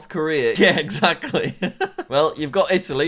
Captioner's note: laughs